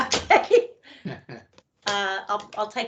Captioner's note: laughing